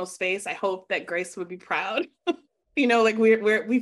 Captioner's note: chuckling